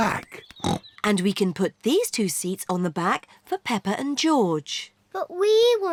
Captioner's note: snorts